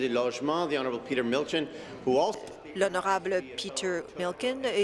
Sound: speaking in French

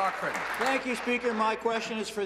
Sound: applause

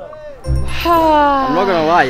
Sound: sighing

